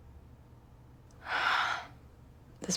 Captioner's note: sighs heavily